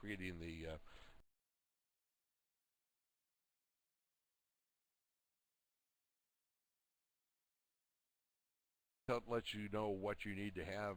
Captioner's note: audio drops